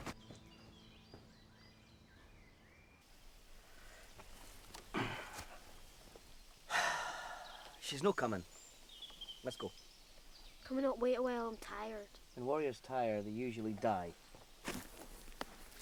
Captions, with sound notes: - (sighs) She's not coming. Let's go. - Can we not wait a while? I'm tired. - When warriors tyre, they usually die.